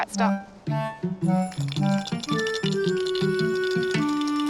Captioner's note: bells rattling